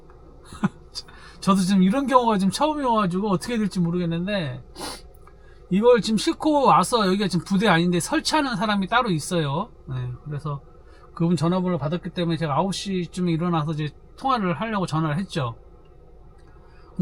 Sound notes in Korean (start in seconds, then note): 4.8 콧방귀